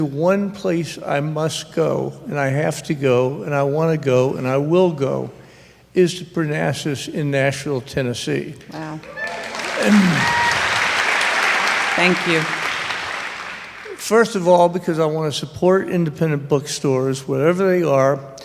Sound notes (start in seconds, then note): 12.1 applause